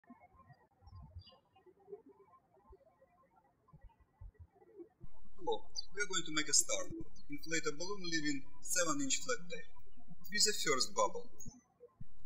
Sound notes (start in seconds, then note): 0.1 birds chirping